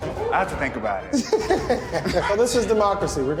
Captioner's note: both laughing